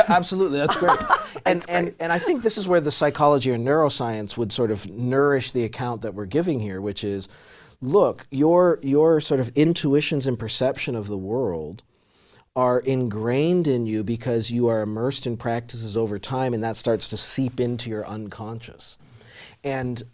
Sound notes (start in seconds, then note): 0.0 laughs